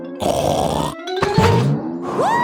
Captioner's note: snorts